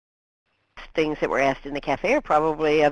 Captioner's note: voiceover